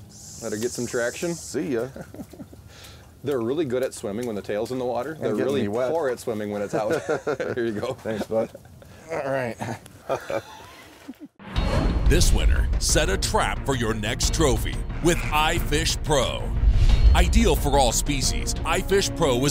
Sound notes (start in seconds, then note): 6.6 laughing; 12.3 voiceover